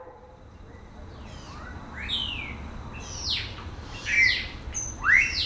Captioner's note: birds twittering